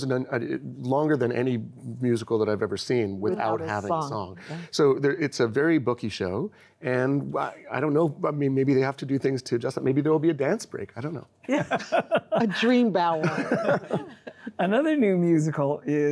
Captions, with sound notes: Like it goes on longer than any musical that I've ever seen without having song. So it's a very booky show and I don't know, I mean, maybe they have to do things to adjust it. Maybe there will be a dance break. I don't know. >>Yeah. (laughing) >>A dream ballet.